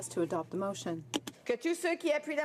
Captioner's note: speaking French